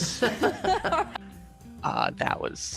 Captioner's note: laughing